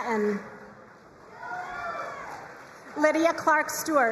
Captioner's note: crowd cheering and applauding